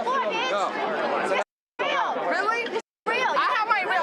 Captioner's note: yelling